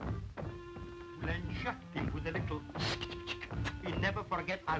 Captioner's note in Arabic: أقدام تدوس; تعزف الكلارينيت; الهسهسة